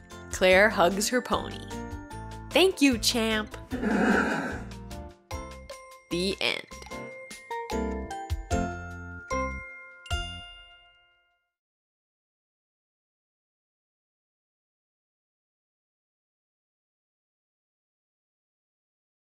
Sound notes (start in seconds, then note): 3.8 Champ whinnies